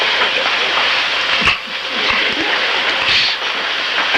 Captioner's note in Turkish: gülüyor, başını sallıyor